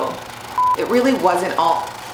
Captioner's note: beep